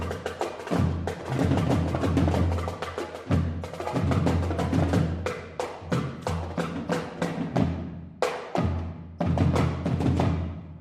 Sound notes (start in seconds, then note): none